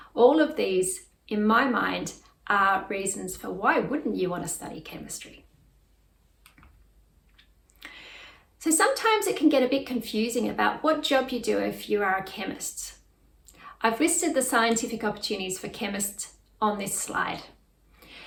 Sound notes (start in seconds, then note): 6.7 mouse clicks